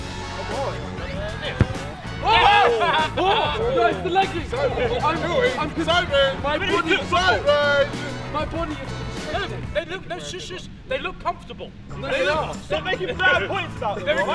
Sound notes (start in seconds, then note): 1.6 upbeat music; 2.4 laughter